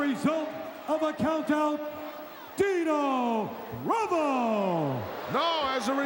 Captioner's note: crowed booing